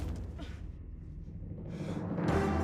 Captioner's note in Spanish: exhala